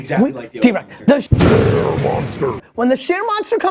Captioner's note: monster voice